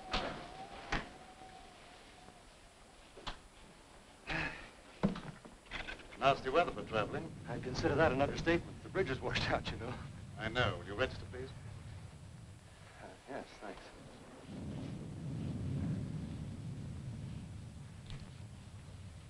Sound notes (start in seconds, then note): 0.8 door latches; 4.2 Allen sighs; 14.3 rain pattering; 14.3 thunder rumbling